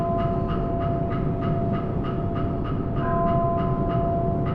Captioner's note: bell tolling